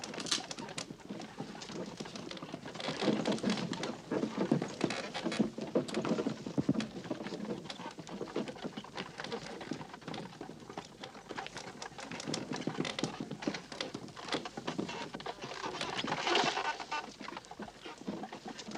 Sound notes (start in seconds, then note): 4.5 clip-clop